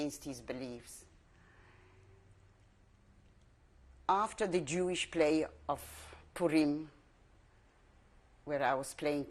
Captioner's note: pauses for 3 seconds